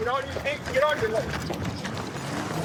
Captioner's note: footsteps running; engine revving